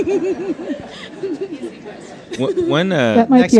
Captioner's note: crowd laughs